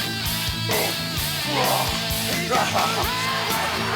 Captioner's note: Hulk grunts